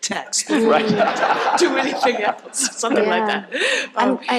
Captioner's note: crowd laughs